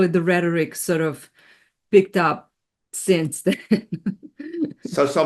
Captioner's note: laughs